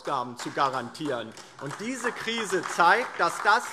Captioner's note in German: Beifall DIE LINKE und vereinzelt SPD